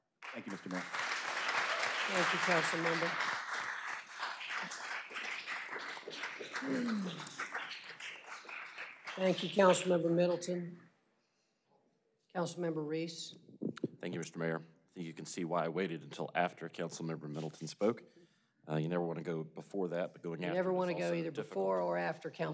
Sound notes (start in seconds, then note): 6.9 applause